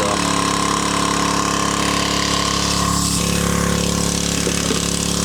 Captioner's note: motor whirring